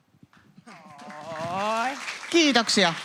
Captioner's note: aplodeja